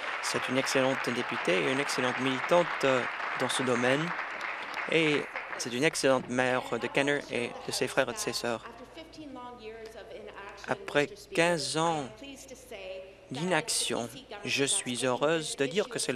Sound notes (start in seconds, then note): 4.9 applause